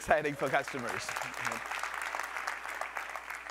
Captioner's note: applause